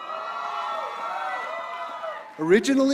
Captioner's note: applause